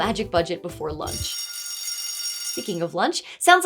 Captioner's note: school Bell Rings